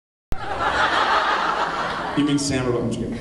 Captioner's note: laughs